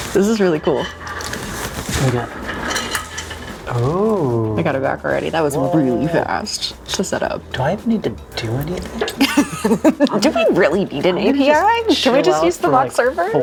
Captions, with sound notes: This is really cool. Oh, I got it back already. That was really fast to set up. Do I need to do anything? (laughing) Do we really need an API? Should we just use the mock server?